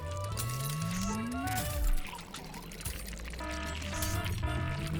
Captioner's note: glass breaking; electricity crackling; alarm blaring